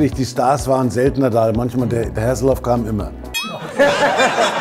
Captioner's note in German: Lachen